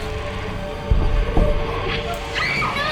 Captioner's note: screams